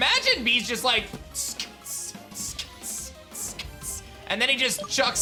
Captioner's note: beatboxes